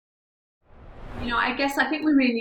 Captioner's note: screen swooshing